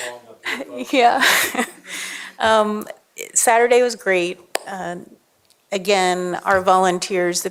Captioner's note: laughter